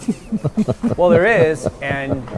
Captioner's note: officers giggle